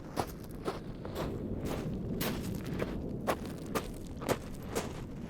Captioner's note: wind rustling